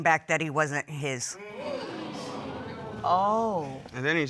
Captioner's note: audience gasping